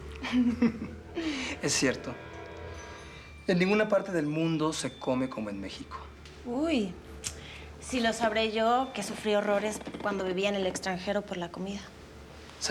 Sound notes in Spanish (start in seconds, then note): 0.2 Risas